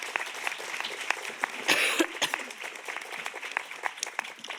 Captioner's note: audience applauding; speaker coughs